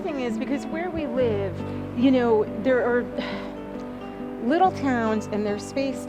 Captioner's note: sighing